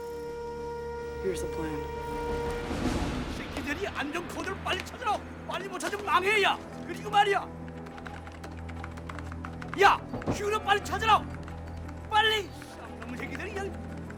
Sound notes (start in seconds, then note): 2.2 Korean; 6.6 keyboard Keys Tapping; 11.6 Korean